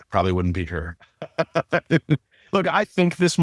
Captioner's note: laughing